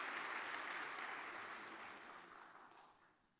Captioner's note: applause